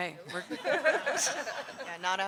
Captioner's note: people laugh